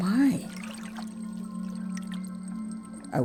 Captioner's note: water sounds